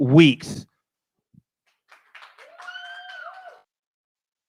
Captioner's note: applause